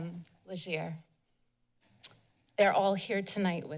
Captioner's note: pause